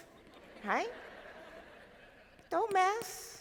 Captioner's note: crowd laughing